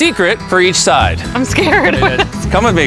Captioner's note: laughs